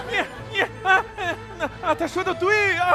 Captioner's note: already crying from anxiety